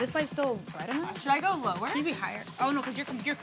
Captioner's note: indistinct chatter